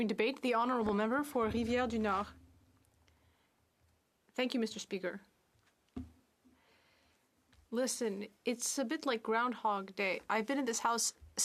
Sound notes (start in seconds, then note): 8.0 speaking French